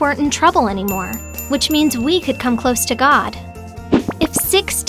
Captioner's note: ding, ding, ding, ding